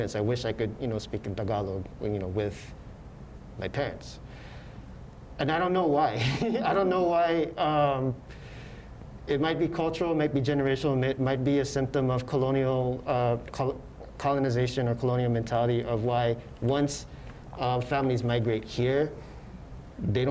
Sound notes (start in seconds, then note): 6.2 laughs